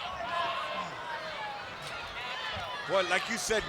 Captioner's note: spectators chattering